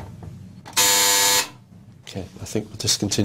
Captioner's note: buzzer